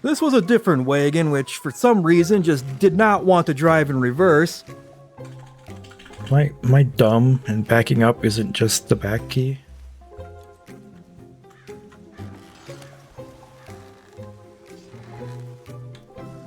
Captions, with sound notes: This was a different wagon, which for some reason just did not want to drive in reverse. [Angry key mashing] Am I dumb and backing up isn't just the back key?